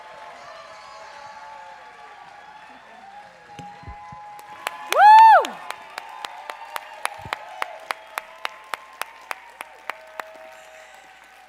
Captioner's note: applause